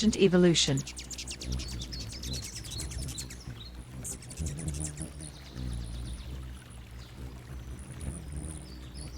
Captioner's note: birds chirping and singing; bird's wing flapping